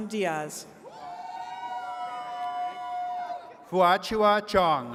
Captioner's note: attendees cheering